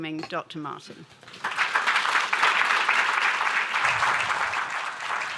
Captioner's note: applause